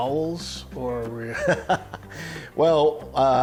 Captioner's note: laughing